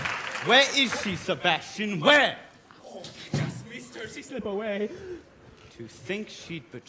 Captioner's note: applause